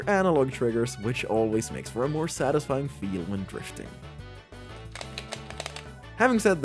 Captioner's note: click